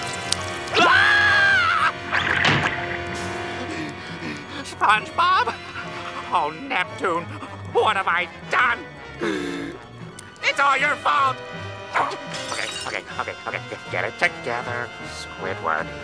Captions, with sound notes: [screaming] [door shutting] [panting] SpongeBob? Oh, Neptune, what have I done? It's all your fault! Okay, okay, okay, okay. Get it together, Squidward.